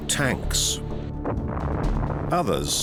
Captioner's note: explosion